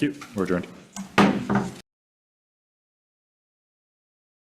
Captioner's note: gavel pounds